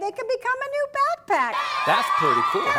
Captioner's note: cheering!